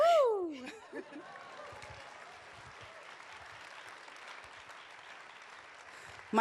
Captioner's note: applause